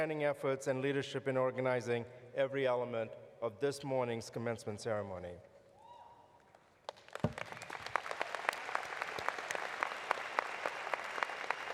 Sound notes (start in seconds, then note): 8.5 applause